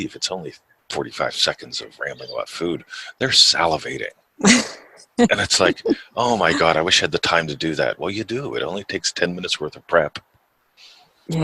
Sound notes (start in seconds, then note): 5.2 laughs